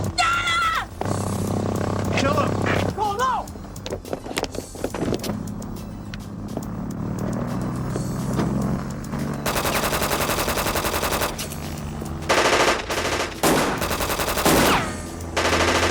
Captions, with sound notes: - Donna! - Kill them! - Nicole, no! (plane buzzing) (gunshots popping) (rapid gunshots booming)